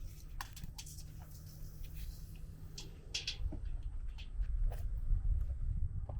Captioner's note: measuring tape crinkling